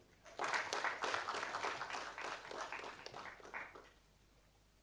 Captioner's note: audience applauding